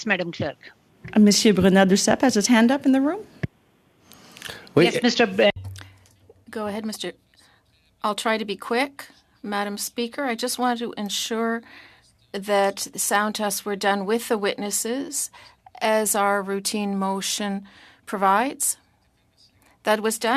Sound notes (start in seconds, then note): 6.0 speaking French